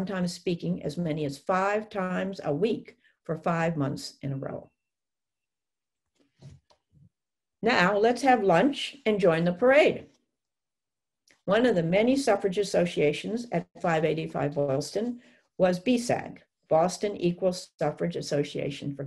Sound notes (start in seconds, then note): 5.5 silence